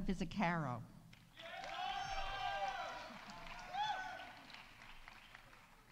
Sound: audience applauding; audience cheering

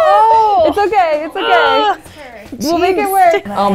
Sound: groans

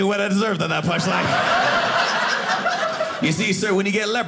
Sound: audience laughing

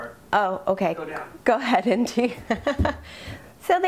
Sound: laughs

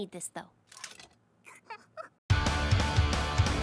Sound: Ruby chuckles

